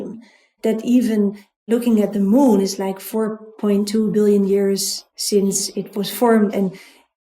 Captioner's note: none